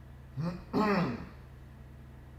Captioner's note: Dakin clears his throat